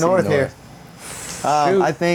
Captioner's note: laughing